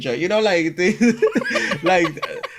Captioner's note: laughs